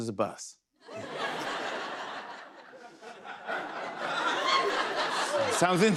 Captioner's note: laughter